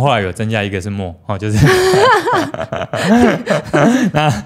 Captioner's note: laughs